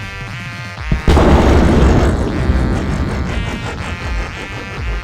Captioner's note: explosion